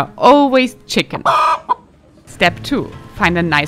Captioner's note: chicken clucking